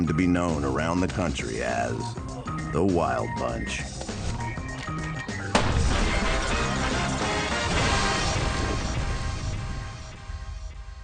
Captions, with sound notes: around the country as the Wild Bunch. (upbeat music) (gun fires)